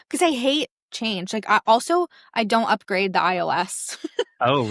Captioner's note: laughs